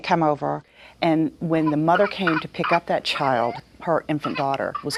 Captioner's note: coughing